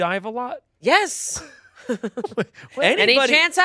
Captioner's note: laughs